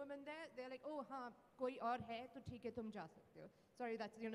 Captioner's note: non-english speech